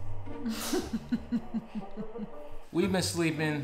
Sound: mischievous music; laughing

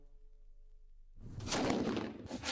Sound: bang!!

